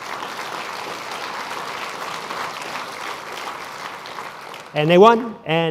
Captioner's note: applause